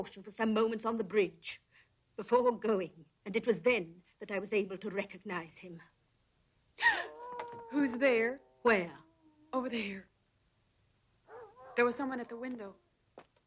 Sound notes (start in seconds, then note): 6.8 Priscilla gasps